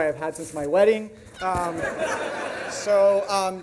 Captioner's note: audience laughs